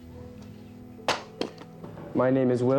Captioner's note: wood cracks; ax thudding